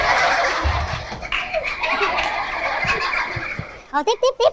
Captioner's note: applause